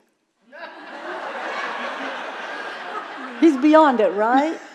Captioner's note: audience laughing